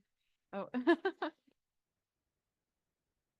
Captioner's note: laughs